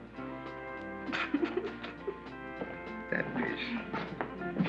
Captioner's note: laughs